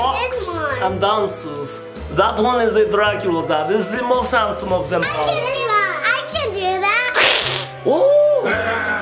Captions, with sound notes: - What's this one? - That one is a Dracula Dad. He is the most handsome of them all. - I can do that. (imitates Dracula hissing) - Ooh, very good.